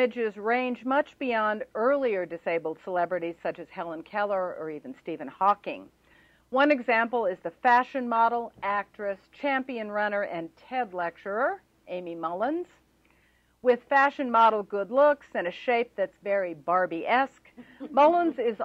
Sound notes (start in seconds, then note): 17.2 laughter